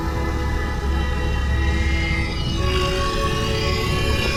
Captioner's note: sub whirring